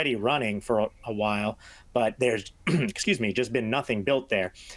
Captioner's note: clearing throat